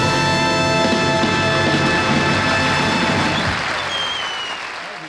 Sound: audience applauding

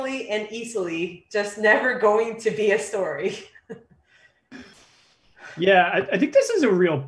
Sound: laughs

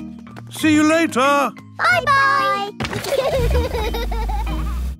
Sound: laughter

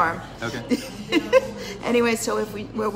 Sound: laughs

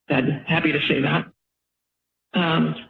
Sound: pause

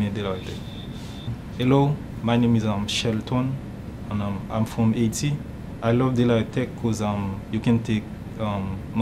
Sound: in English

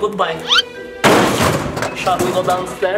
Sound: snake thuds

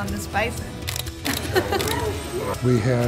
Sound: camera clicks; laughs

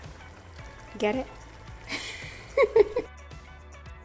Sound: laughs

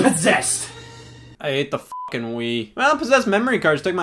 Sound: beep

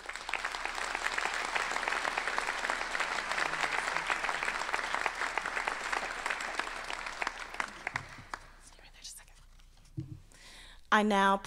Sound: applause

